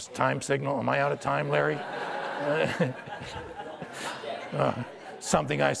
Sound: audience laughter

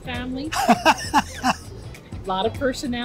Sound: laughs

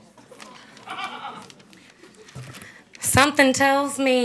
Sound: audience laughs

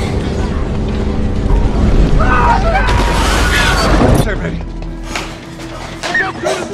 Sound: screaming, crashing, explosions

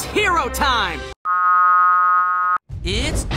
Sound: Ben 10 voice; return of the blooper noise

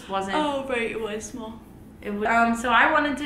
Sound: yawning

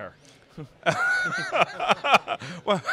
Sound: laughing

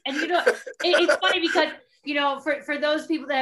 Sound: laughing

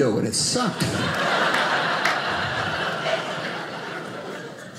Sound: audience laughing

